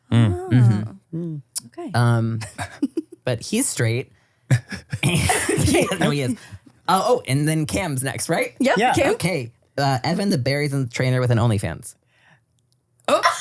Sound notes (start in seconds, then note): 2.4 giggle; 4.5 laugh